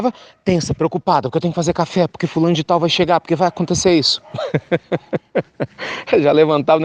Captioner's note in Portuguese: risos